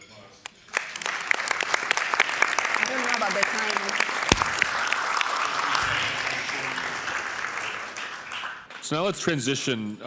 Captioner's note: applause